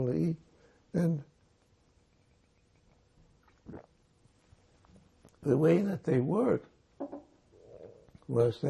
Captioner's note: drinking